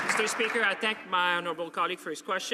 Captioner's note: some Applause